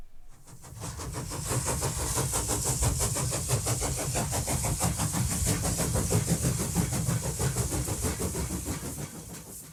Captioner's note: sound of Steam Train passing